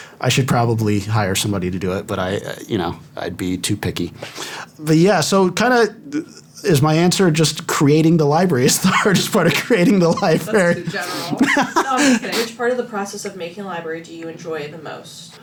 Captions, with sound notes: I should probably hire somebody to do it, but I, you know, I'd be too picky. But yeah, so kind of is my answer [laughing] just creating the library is the hardest part of creating the library? That’s too general. [laughter] Which part of the process of making a library do you enjoy the most?